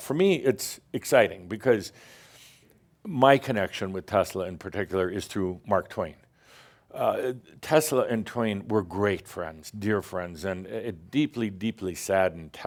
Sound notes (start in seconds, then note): none